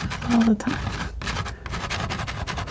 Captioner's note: scratching